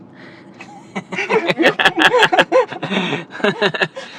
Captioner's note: laugh